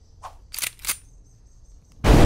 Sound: gun cocked

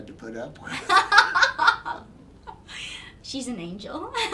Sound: laughing

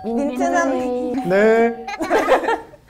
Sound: cracking up

